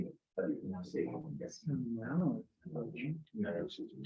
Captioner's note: members chattering